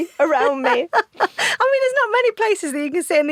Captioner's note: laughs